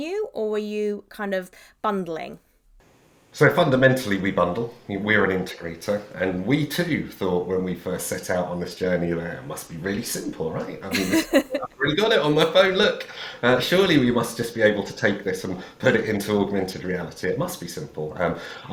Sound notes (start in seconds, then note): 10.9 laughs